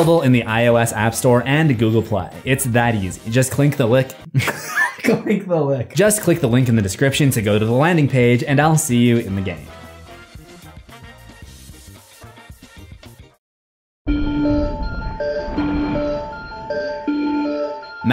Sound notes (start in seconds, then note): 4.3 laughter; 9.9 upbeat jazz; 14.1 mysterious music